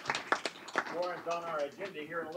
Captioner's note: applause